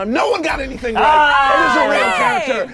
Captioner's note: overlapping chattering